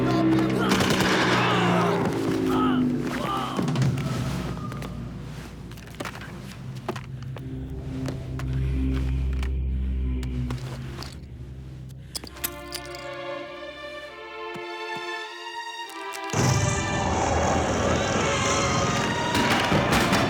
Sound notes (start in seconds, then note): 0.7 gun fires; 1.9 groans; 16.4 explosion; 16.7 screams